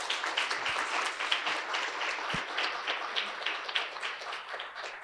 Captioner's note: audience applauding